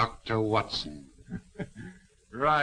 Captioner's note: laughing